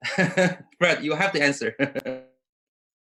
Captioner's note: laughs